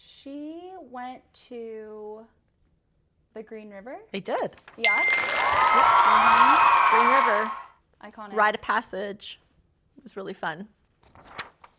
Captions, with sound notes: She went to the Green River. I did! [chime and audience cheering] Green River. Iconic. Rite of passage. It was really fun.